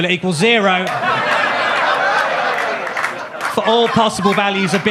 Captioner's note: audience claps; audience laughs